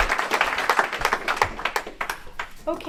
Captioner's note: applause